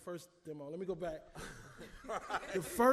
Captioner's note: laughs